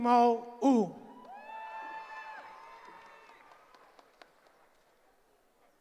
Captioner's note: cheering